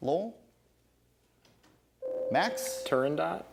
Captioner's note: ding